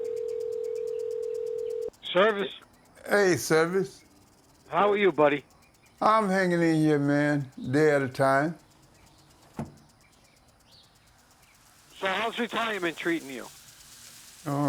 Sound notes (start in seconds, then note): 9.5 dart thudding